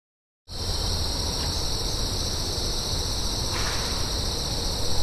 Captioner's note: insects chirp; wood knocks